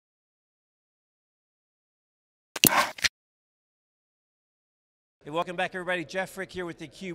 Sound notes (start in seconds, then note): 2.6 camera shutters